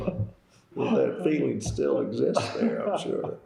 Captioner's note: laughter